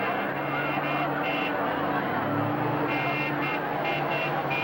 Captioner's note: truck horns blaring